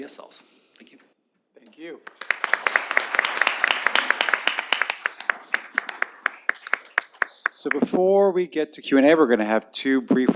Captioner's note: applause